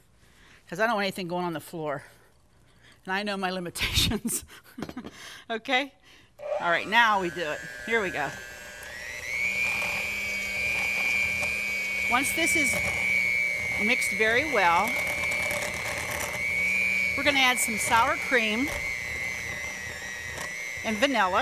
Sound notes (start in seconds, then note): 5.4 laughs; 8.6 mixer hums